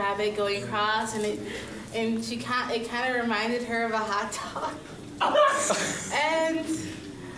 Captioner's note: laughs